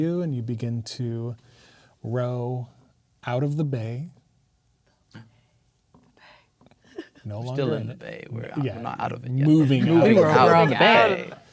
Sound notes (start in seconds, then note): 4.9 gasps; 6.1 whispers